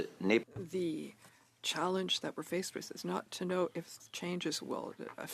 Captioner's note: speaking French